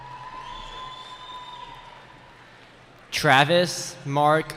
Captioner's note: cheering